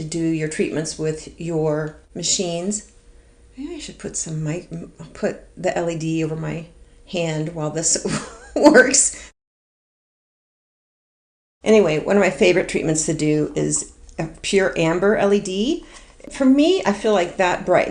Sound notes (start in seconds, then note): 8.2 laughs